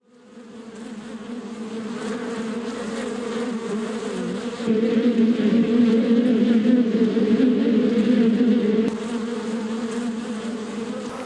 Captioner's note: bees buzzing